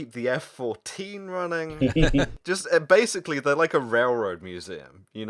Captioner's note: laughter